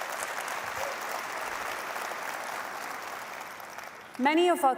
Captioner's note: applause